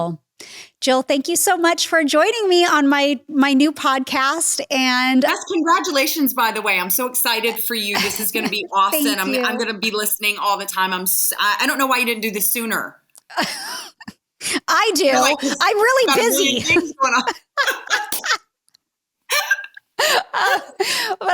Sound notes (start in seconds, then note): 13.1 laughing; 19.9 both laughing